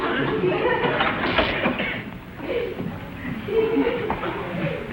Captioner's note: electrical buzzing